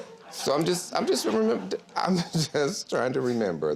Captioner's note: stammers